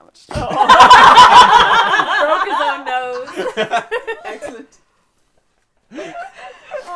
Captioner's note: laughter